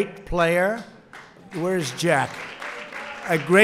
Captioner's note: applause